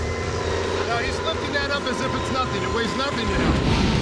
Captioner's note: none